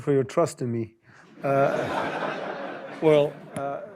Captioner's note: laughter